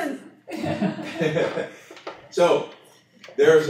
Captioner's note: laughter